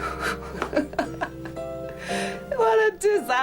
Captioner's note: laughs